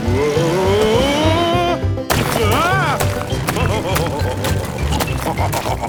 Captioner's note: laughing